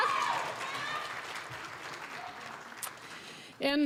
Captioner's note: applause